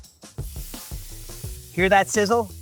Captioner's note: chicken sizzling